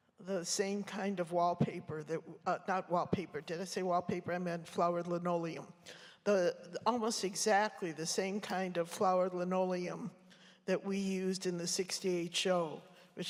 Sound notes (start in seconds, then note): none